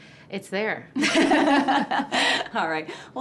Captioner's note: chuckles